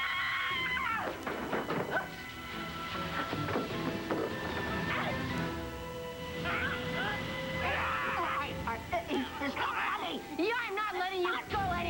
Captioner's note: allison screams